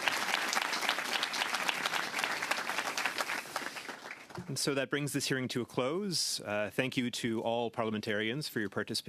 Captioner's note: applause